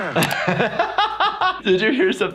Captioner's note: laughs